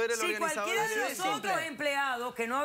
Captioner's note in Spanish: comentarios al unísono